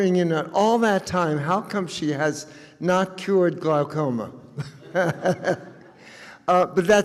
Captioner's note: chuckles